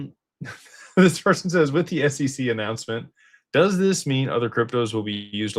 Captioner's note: laughter